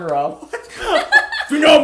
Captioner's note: laughter